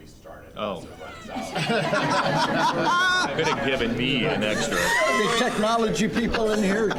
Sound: audience laughing

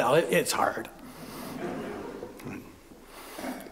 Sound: laughter

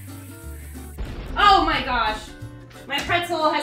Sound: bomb exploding

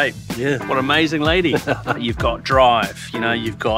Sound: laughs

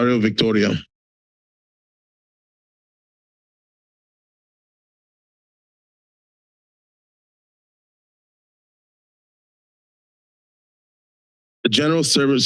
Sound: silence

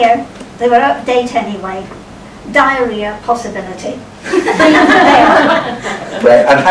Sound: laughter

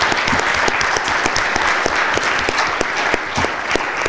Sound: applause

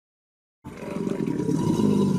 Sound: alligator bellowing; robot Voice

